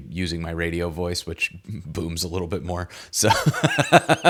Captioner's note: laughs